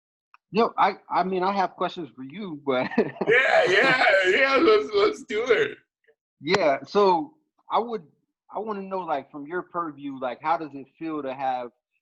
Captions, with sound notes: - No, I mean, I have questions for you, but (laughs) - Yeah, let's do it. - Yeah, so I would, I wanna know like from your purview, like how does it feel to have